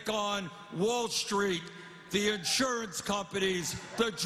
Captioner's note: cheers and applause